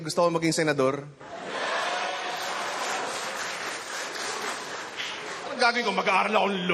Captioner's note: laughter, applause